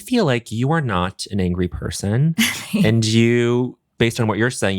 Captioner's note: chuckles